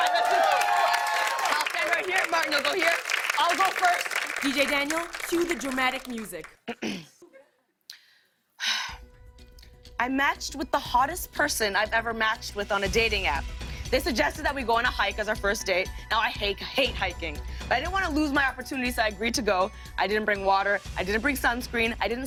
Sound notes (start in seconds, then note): 0.0 cheers and applause; 6.6 clears throat; 7.9 breathes deeply